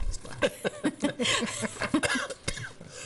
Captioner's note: laughing